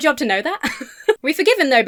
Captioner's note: laughs